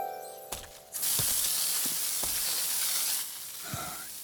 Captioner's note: water rushing; gasping